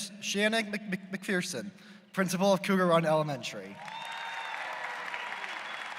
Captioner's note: applause